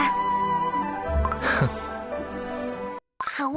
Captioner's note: laughs